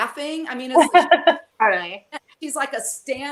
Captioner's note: laughs